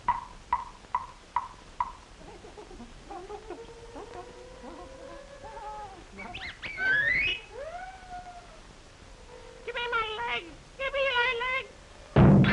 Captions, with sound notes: (distressed whimpers) - Give me my legs, give me my legs!